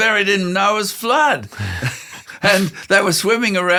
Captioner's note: both laugh